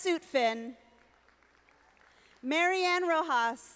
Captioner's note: audience applauding